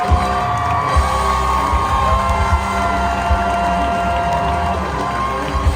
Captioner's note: audience clapping and cheering; bright music